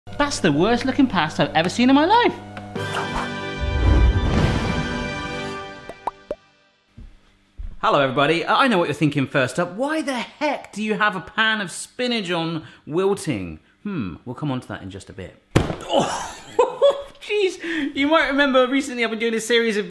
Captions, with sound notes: - That's the worst looking pasta I've seen in my life. (orchestral crescendo) (bubbles popping) Hello everybody, I know what you're thinking first up, why the heck do you have a pan of spinach on, wilting? Mm, we'll come on to that in just a bit. (box thudding) Oh, geese, you might remember, recently I've been doing this series